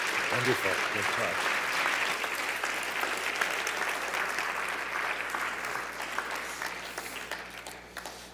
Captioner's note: claps